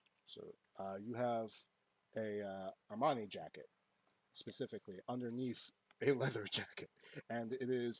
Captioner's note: chuckles